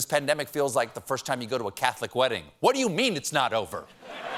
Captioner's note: whispering; laughter